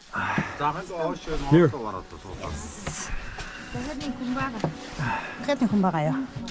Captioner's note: locals speaking in foreign language